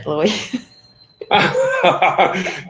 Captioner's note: laughing